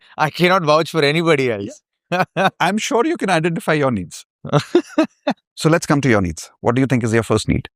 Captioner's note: laughter